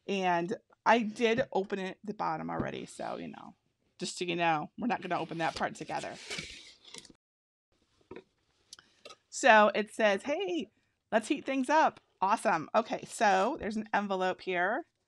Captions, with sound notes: and I did open it at the bottom already, so, just so you know, we're not gonna open that part together. (packaging rustles) So it says, "Hey, let's heat things up." Awesome, okay, so there's an envelope here